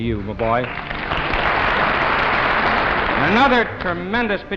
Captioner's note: audience applauding